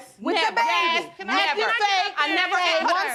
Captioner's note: both clamoring